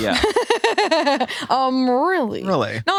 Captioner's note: laughs